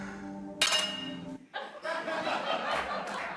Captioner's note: laughter